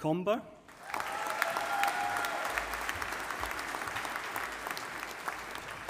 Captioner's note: audience applauding